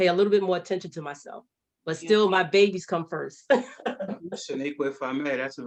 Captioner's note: laughs